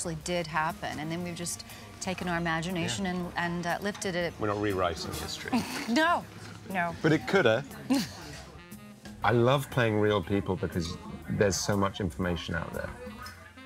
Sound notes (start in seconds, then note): 7.0 laugh